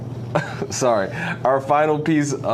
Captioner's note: chuckling